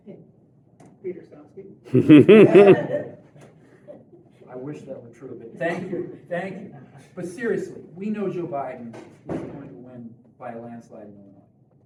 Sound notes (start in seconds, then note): 1.9 laughter